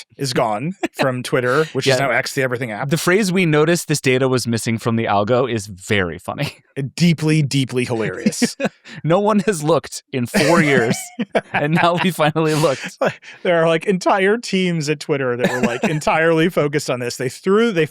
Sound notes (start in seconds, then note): 7.8 laughing